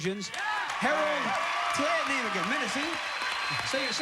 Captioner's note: cheers and applause